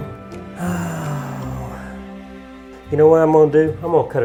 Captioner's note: sighs